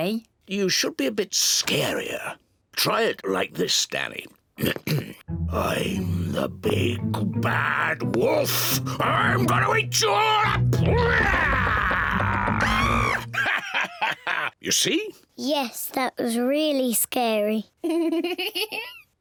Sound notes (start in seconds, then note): 4.2 gruffly; 10.4 roars; 10.8 screams; 13.4 laughs; 17.8 giggles